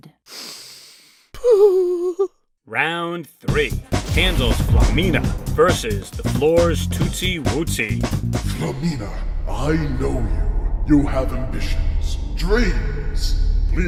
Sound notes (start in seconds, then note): 0.2 sharp inhale; 1.3 mournful cooing